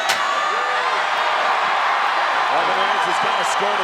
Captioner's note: crowd cheers